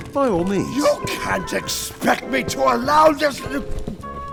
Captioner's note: grunting